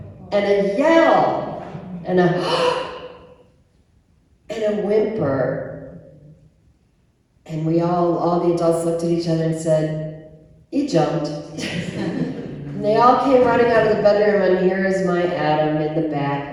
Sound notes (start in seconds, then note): 2.4 audible deep breath